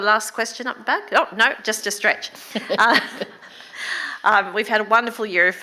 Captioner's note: laughs